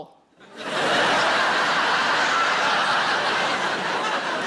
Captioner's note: audience laughing